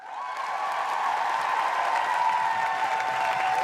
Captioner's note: applause